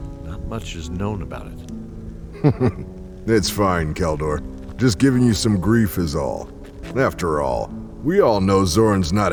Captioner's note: chuckles